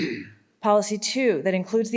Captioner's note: participant clears throat